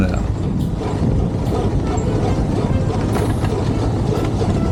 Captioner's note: whooping sound